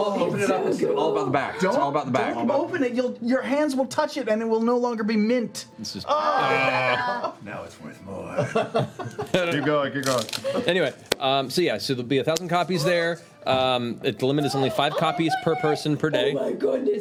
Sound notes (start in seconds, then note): 6.2 groaning